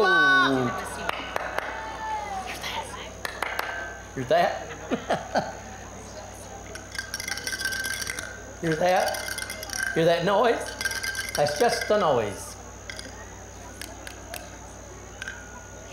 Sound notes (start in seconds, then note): 1.0 clapping hands loudly; 2.5 whispering; 3.2 clapping hands loudly; 4.6 laughter; 6.7 shakes rattle by each ear of boy; 10.0 continues to shake rattle; 13.6 snaping fingers by boy's ears